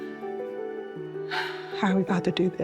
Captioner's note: sighs